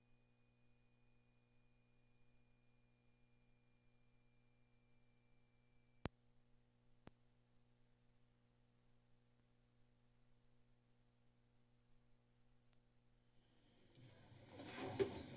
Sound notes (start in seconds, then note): 0.0 silence; 10.5 silence